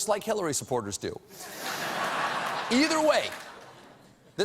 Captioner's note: laughter